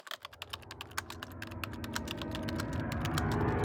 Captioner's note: typing